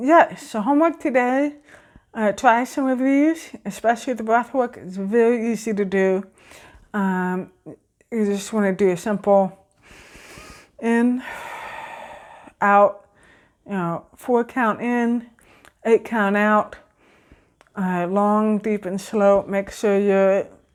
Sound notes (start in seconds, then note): 9.8 exhale; 9.8 inhale